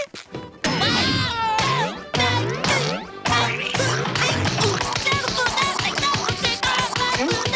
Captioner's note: groaning; groaning